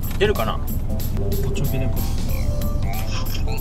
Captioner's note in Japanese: 呼び出し音